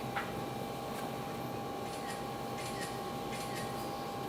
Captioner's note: camera clicking